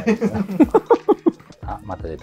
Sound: laughing

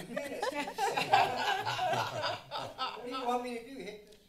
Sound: all laugh

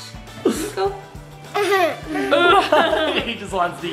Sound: laughing

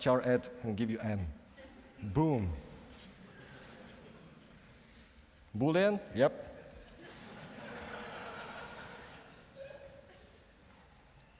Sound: laughing

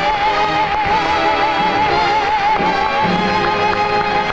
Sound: audience responding

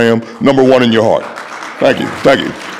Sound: audience applauding

